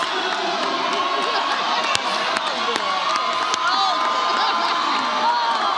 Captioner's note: audience applauds and cheers